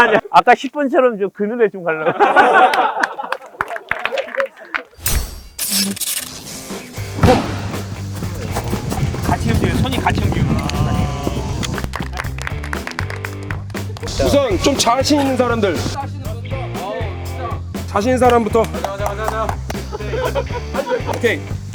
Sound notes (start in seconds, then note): 19.8 can't hold his laugh